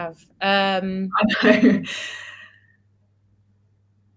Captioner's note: laughs